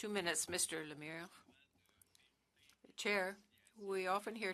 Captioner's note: speaking French